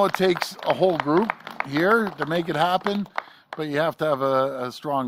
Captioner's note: applause